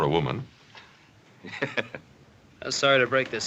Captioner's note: chuckling